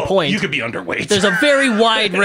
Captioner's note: laughs